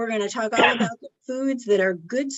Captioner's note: participant coughs